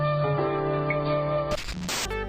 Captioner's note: TV static